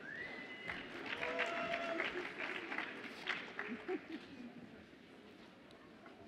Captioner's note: audience applauds and cheers